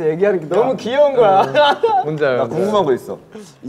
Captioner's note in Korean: ㅎㅎㅎㅎ